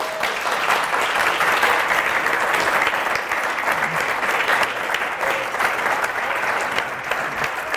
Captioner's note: applause